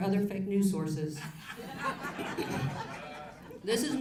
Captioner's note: audience laughs